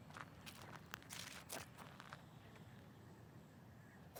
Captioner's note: birds chirping